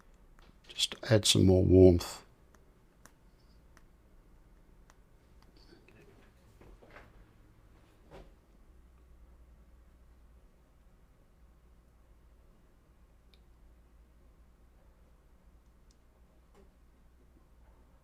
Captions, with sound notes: Just add some more warmth. [silence]